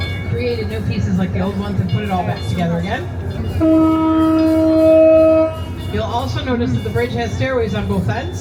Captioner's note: horn sounds